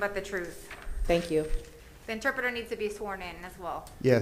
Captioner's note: speaking spanish